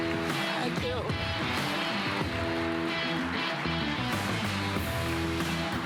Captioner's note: rock music playing; applause; rock music playing